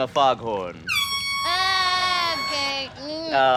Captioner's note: foghorn